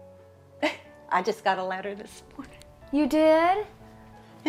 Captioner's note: chuckles